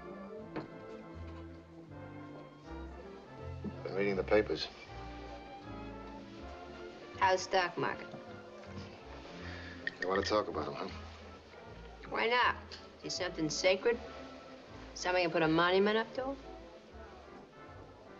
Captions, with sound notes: Been reading the papers. How's the stock market? [ Chuckles ] Don't want to talk about him, huh? Why not? He something sacred, someone you put a monument up to?